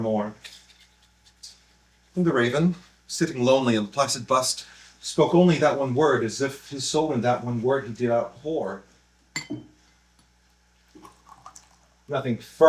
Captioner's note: drink pouring